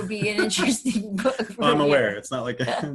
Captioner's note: laughing